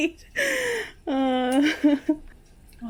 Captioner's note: laughs